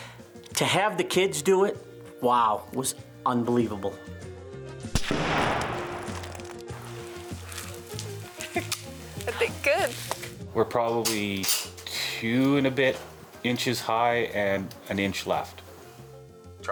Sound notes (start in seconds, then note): 4.9 rifle bangs; 8.7 safety catch clicks